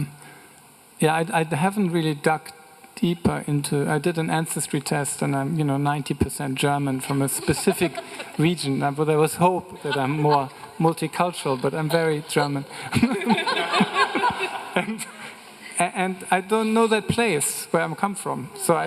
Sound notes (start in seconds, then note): 12.9 everyone laughing